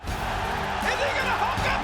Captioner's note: crowd cheering